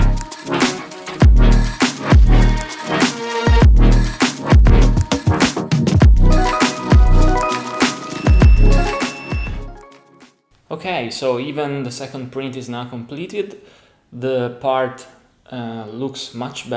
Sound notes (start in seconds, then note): 6.1 3D printer beeping to notify completion